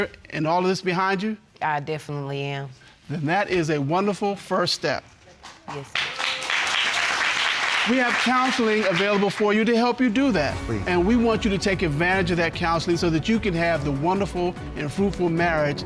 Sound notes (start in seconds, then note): 5.6 audience applauding